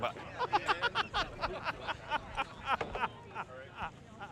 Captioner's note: worker laughing